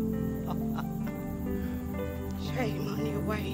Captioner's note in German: Junge lacht